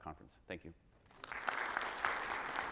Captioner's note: audience applauds